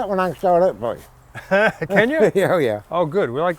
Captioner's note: laughing